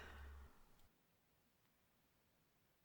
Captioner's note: loud sigh